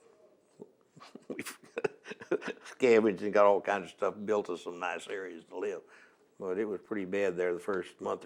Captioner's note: laughs